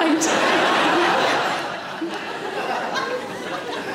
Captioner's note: audience laughing